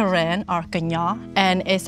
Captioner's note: speaking in foreign language